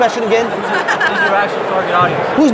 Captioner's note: laughing